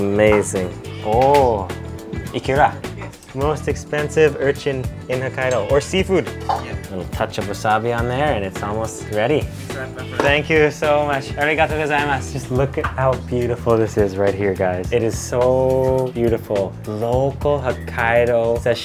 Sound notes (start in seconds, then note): 8.9 speaks Japanese